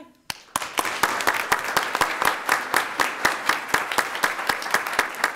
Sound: audience applauding

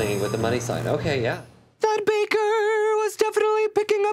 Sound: beep

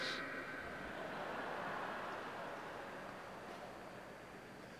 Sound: audience laughing

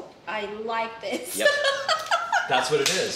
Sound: laughs

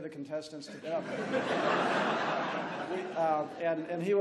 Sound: laughs

